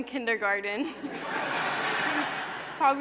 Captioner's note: laughter